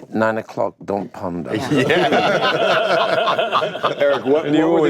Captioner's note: laughter